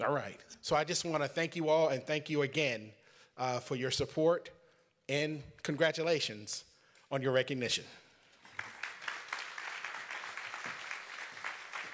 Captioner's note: applause